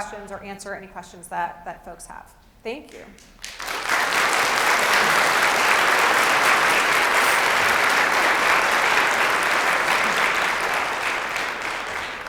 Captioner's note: applause